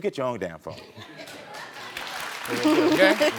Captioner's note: audience applauding